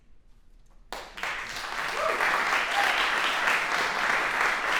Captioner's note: applause